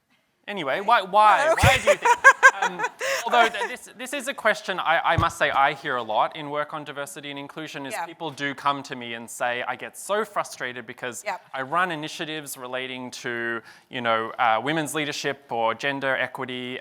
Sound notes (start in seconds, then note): 1.4 laughs